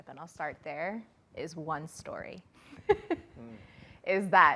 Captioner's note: laughs